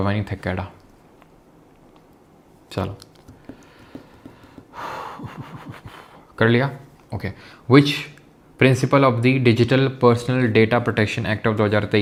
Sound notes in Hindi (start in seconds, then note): 3.5 गहरी सांस लेने की आवाज़; 4.9 हांफने की आवाज़